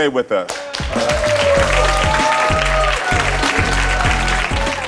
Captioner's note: audience applauds